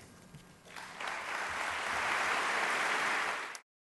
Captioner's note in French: Applaudissements